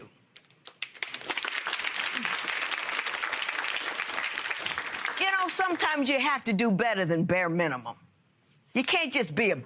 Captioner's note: applause